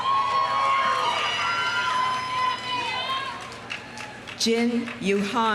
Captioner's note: audience cheering; audience applauding